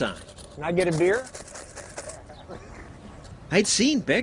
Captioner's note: rattles coins in cup